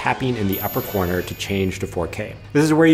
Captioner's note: bell dinging